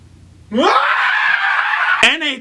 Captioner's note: screams